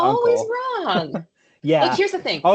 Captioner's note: laughs